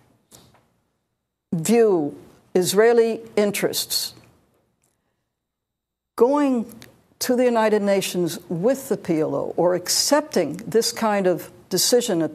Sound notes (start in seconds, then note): none